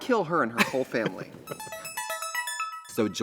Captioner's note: Katya laughs